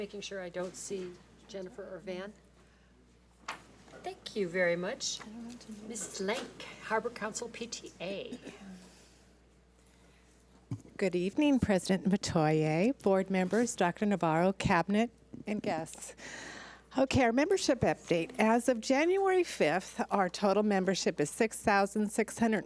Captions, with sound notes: Just making sure I don't see Jennifer or Vance. Thank you very much. (woman speaks off mic) Miss Lake, Harbor Council PTA. - Good evening President Metoyer, board members, Dr. Navarro, cabinet, and guests. Okay, our membership update. As of January 5th, our total membership is 6653 members.